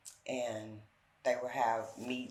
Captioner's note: none